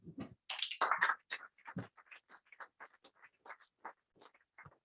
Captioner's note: applause